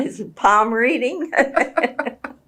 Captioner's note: laughter